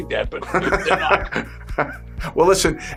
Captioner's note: laughing